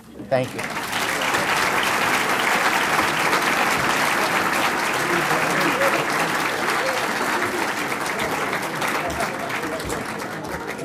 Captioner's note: applause